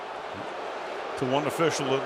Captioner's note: booing